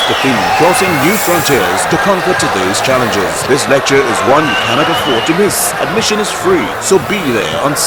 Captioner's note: wild applause and cheering for 22 seconds